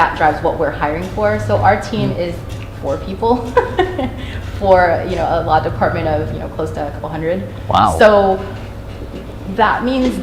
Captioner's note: chuckle